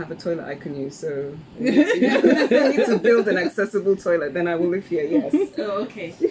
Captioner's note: laughs